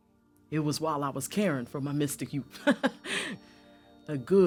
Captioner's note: laughs